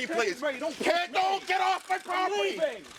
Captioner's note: screaming